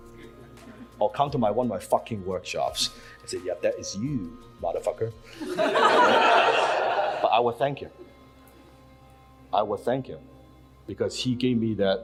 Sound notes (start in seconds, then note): 5.4 audience laughs